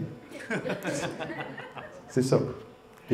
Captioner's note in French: rires